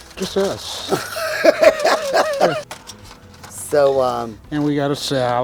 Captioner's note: laughing